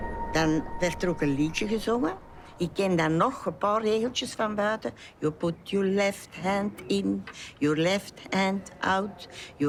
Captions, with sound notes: (speaking foreign language) - You put your left hand in, your left hand out,